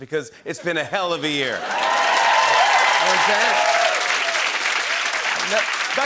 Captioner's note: cheers and applause